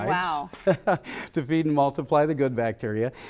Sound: laughter

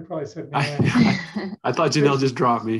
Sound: laughter

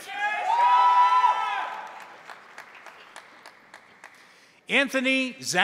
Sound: crowd cheering; crowd applauding

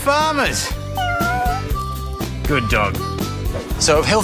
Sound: cat meows

